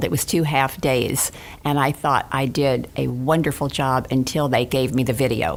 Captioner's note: none